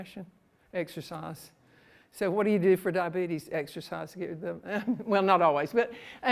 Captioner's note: laughs